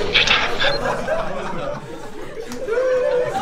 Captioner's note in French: rires